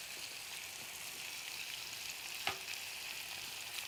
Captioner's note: sizzling